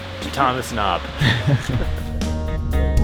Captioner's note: laughs